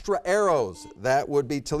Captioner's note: button beeping